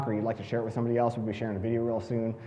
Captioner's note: none